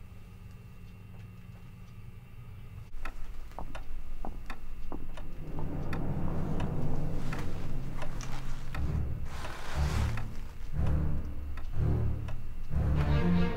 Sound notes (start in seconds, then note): 5.4 footsteps recede; 9.9 dramatic music